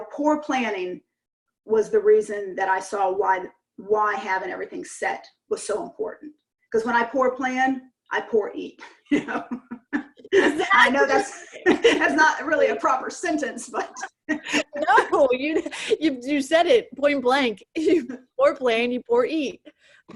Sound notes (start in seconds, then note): 9.0 chuckle; 13.8 laughs